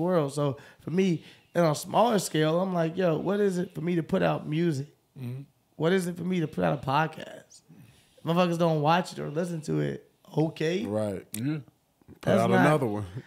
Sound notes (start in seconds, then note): none